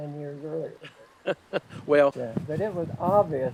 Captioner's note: laughing